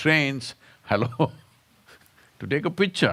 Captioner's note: laughs